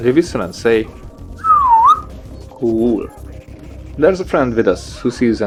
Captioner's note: whistle